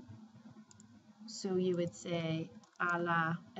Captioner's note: spanish; speaking spanish